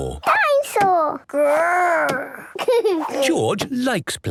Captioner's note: giggles